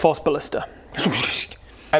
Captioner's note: tsshsssht